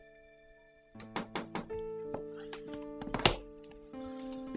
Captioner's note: knocking on door